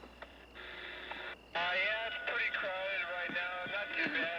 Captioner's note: c.b. radio